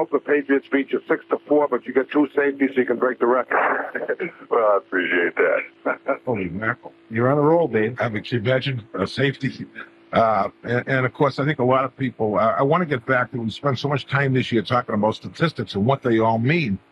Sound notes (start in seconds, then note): 3.4 laughter